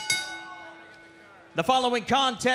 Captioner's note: bell